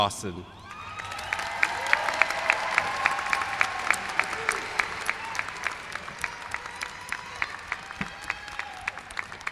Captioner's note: applause